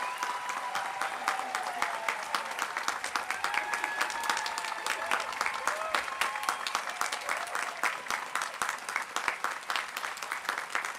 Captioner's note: applause